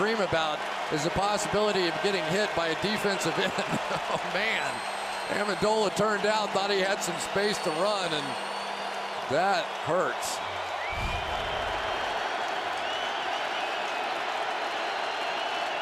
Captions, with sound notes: you always dream about is the possibility of getting hit by a defensive end. Oh, man, Amendola turned out. Thought he had some space to run. And that hurts. [cheering]